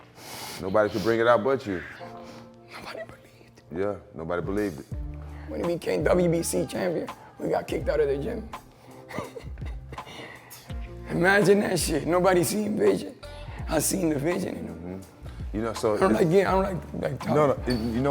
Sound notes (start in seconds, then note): 9.0 laughing